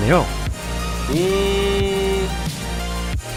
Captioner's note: imitating machine sound